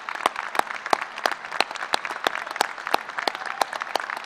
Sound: applause

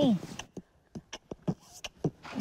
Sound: beatboxing continues

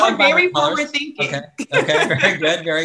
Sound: laughs

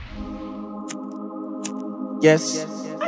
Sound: lighter flicking

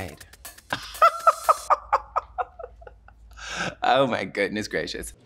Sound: laughs

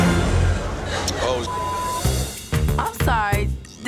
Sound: beep sound

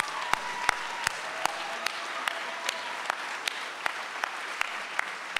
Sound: audience cheers and applauds; claps

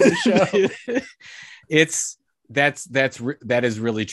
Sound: laughs

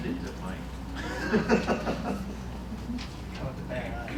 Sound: laughter

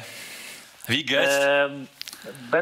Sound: in German

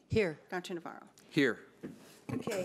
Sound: bold Voice

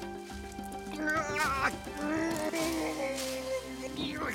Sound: grunting

